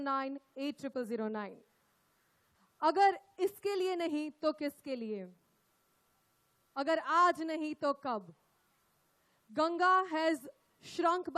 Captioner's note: speaks in Hindi – not transcribed